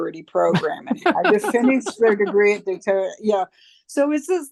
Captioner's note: laughter